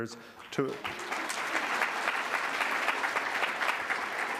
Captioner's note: applause